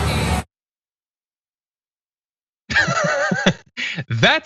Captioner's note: laugh